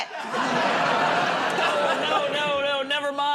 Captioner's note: laughter